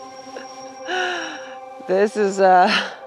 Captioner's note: laughing